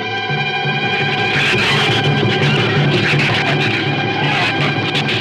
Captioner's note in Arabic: صراخ الزبابة